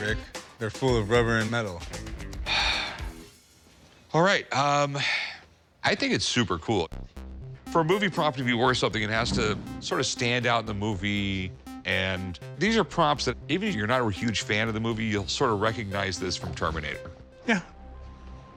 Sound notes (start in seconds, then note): 2.4 sighs